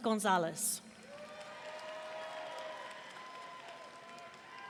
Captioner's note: audience cheering